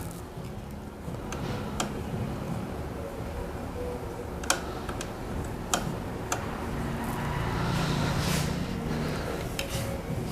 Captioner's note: wiper noise